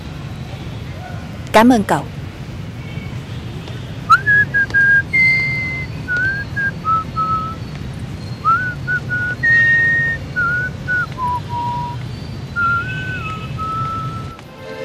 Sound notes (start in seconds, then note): 4.0 whistle